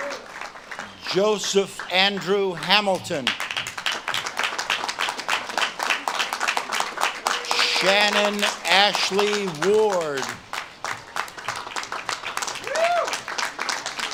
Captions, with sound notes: Joseph Andrew Hamilton. (audience claps and cheers) Shannon Ashley Ward. (audience claps and cheers)